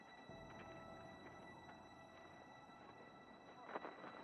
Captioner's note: wind blowing